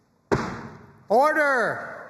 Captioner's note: flag thuds